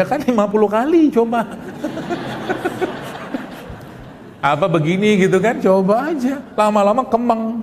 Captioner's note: laughs